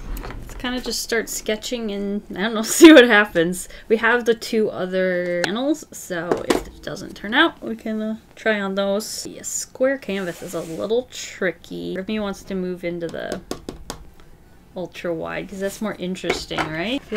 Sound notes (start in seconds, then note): 13.1 taps panel